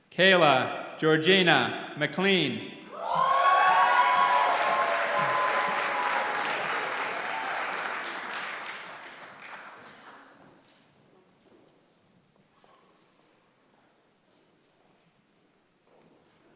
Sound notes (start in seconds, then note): 3.0 applause